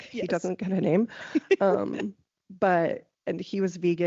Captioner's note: laughing